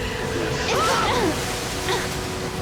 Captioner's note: Grace yells